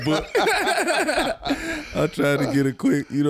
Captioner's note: all laugh